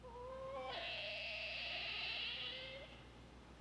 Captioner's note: otter wailing